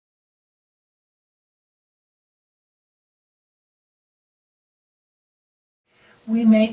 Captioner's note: silence